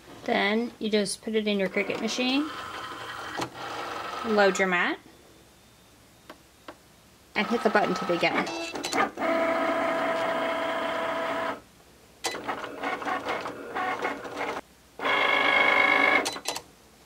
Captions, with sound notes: Then you just put it in your Cricut machine, load your mat, and hit the button to begin. (machine whirring)